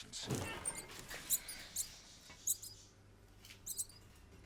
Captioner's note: rats squeaking